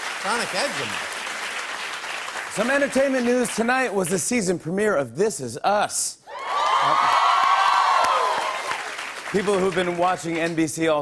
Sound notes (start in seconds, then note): 6.3 cheers and applause